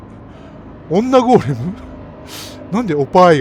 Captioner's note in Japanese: 笑い